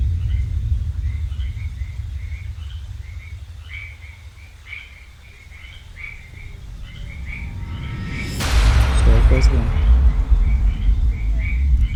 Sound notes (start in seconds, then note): 0.1 dramatic music; 7.8 loud thundering noise